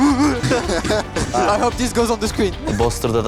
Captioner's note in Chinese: 大笑